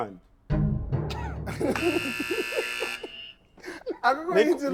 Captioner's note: laughs; buzzer pressed